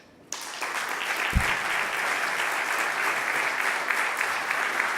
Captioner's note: audience applauding